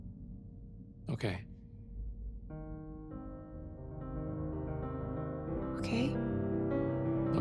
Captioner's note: none